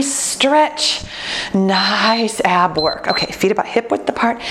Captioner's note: timer beeps